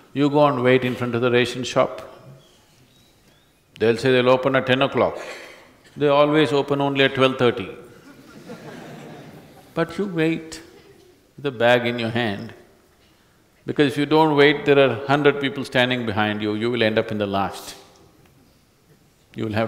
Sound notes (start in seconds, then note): 7.9 few Laugh